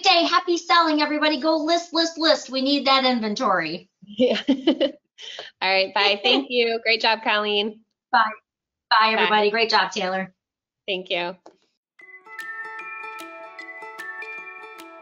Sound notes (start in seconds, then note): 4.1 laughs; 12.0 upbeat music